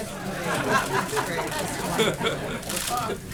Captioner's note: laughter